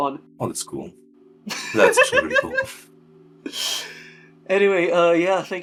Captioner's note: laughing